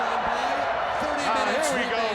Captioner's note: crowd chatter